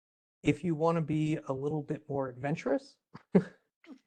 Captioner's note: laugh